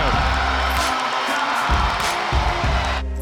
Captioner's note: cheering